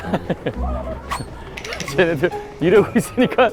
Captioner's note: swoosh